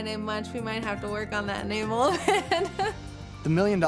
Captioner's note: laughing